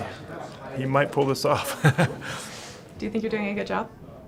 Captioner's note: laughing